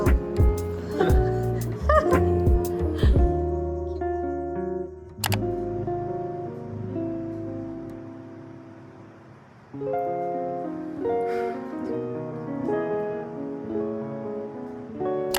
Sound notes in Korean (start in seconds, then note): 11.2 한숨